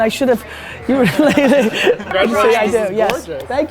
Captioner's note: laughs